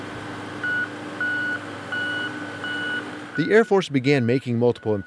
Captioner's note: beeps